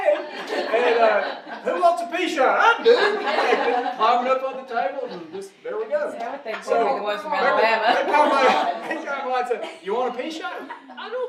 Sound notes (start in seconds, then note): 0.0 audience laughing; 6.8 audience mumbling